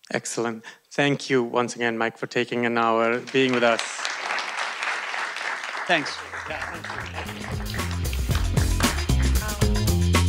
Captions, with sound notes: - Excellent, thank you once again, Mike, for taking an hour being with us. (audience clapping) - Thanks. (upbeat music)